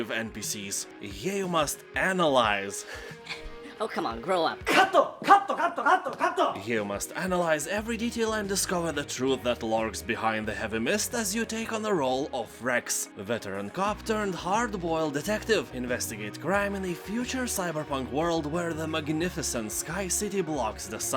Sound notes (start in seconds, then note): 2.8 laughs